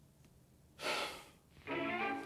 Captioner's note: sighs